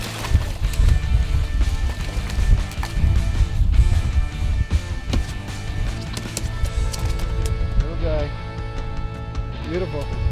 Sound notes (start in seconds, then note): 5.9 fish flapping against boat floor